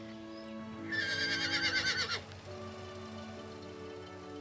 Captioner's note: horse neighing